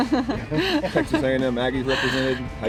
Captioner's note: woman laughing